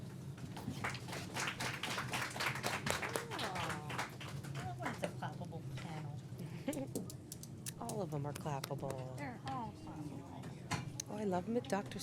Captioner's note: applause